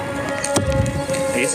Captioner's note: arrow thumps